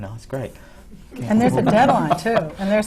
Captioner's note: laughter